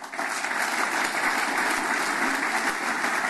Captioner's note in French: Applaudissements